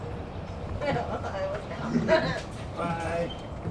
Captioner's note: women chuckling